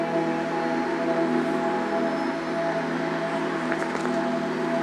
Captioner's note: engines humming